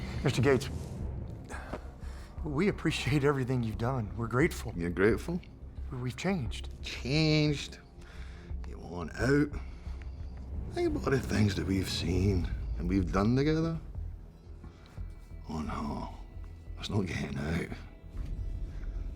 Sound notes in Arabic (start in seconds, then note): 4.8 لهجة اسكتلندية; 7.1 لهجة اسكتلندية